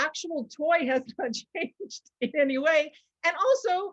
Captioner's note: laughing